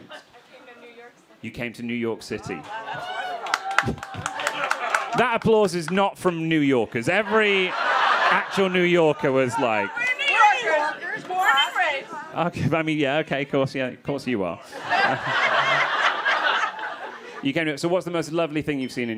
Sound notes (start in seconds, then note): 6.8 crowd laughing; 14.6 crowd laughing